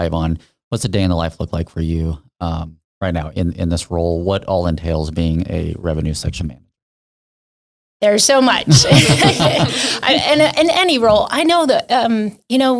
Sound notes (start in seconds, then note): 8.6 laughs